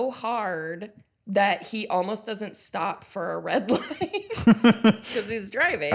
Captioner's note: laughs